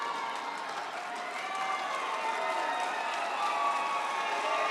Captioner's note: audience cheers